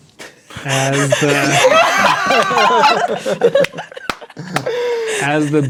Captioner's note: players laughing